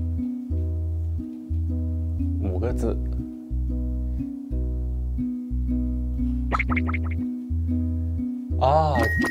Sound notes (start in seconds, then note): 6.5 cracking fingers